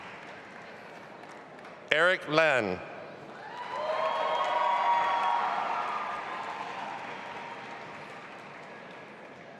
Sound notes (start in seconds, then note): 3.4 audience applauding and cheering